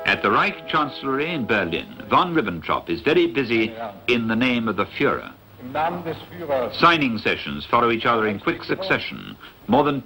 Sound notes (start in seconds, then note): 5.8 speaking in foreign language